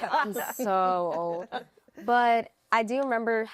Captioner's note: laughter